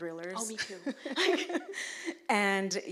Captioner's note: laughs